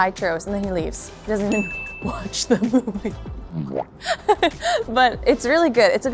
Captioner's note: laughs